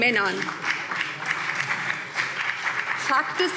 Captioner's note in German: Beifall BÜNDNIS 90/DIE GRÜNEN